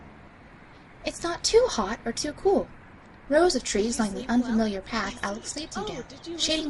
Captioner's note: Alex having conversation in the background